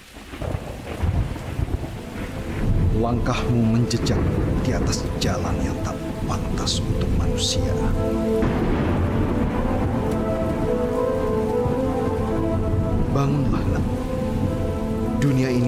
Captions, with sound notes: [Distant thunder and rain] Your footsteps tread a path not intended for humans. [Curious music] Wake up, child.